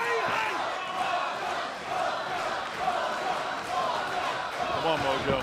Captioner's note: crowd cheering